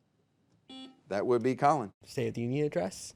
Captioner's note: buzzer beeping